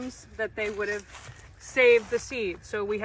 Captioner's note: rustling